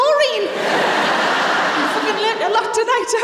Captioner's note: laughter